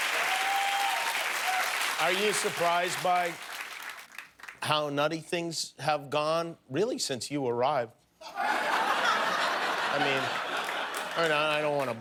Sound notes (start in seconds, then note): 3.6 cheers and applause